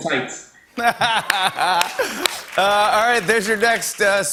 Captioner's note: laughter